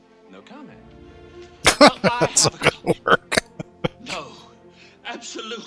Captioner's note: laughing